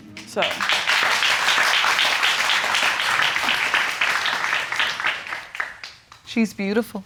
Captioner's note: audience clapping